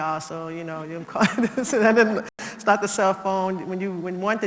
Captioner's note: laugh